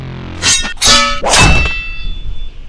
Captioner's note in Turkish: Kılınç Sesleri